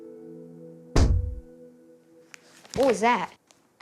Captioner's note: banging